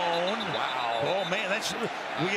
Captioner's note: whistle blowing